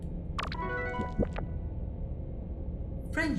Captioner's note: success chime; digital warble